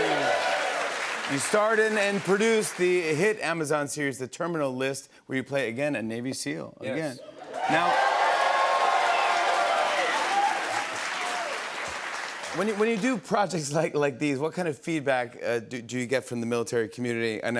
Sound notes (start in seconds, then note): 0.0 cheers and applause; 7.4 cheers and applause